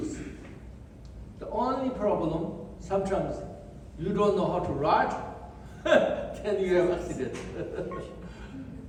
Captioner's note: laughs